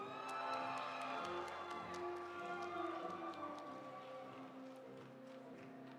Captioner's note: audience applauding; audience cheering